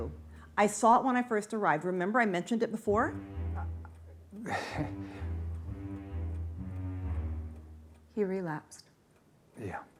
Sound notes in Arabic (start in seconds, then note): 4.4 ضحك